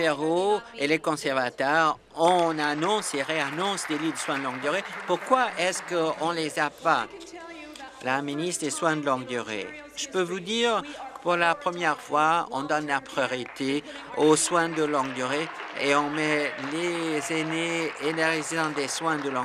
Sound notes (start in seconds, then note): 5.2 applause; 19.0 applause